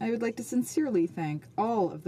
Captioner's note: speaking French